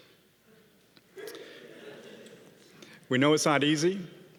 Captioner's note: audience laughing